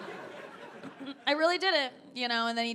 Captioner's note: audience laughing